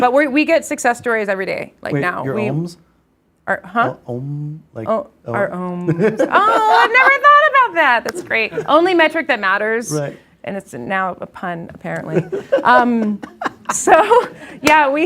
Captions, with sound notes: But we get success stories every day, like now. - Wait, your oms? - Our, huh? - Om. - Our oms. Oh, I've never though about that! [claps hands] That's great. Only metric that matters, and it's now a pun, apparently. [instructor laughs] [instructor claps hands]